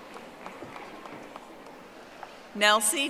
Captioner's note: audience applauding